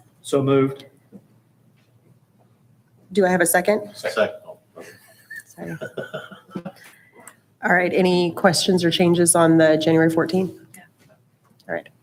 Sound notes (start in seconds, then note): 4.7 chuckling